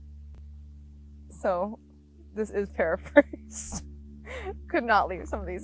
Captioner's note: laughs